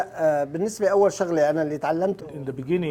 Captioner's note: speaking Arabic